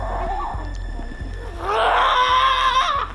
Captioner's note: intense music; screams